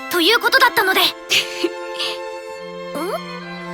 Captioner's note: giggle